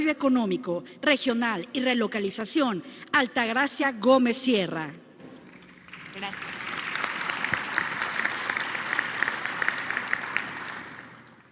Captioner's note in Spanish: aplausos